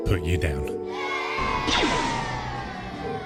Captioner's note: children cheering; gunshots